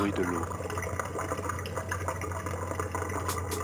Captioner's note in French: Bruit de l'eau qui coule